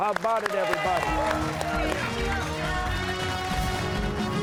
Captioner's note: cheers and applause